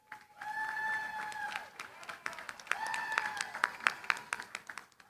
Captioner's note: cheering, applause